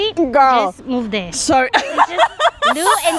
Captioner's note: laughs